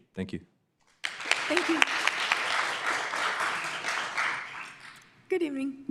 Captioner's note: applause